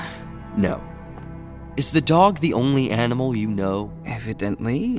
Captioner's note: condescending